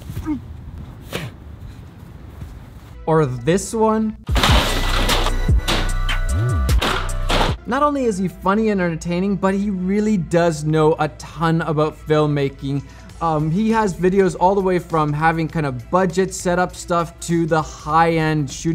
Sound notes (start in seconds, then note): 1.0 spits; 4.3 ladder crashes; 4.3 heavy techno music; 6.6 ladder crashes; 6.7 strikes bat; 6.7 heavy techno music